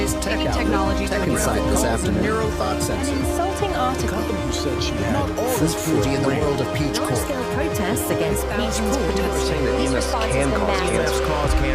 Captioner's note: background Voices